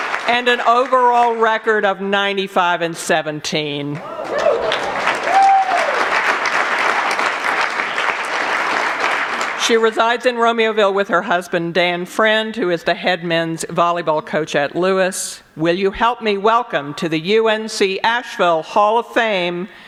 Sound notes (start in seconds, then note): 3.9 applause continues